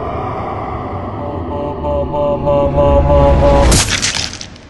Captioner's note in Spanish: Dominic hace ruido en cámara lenta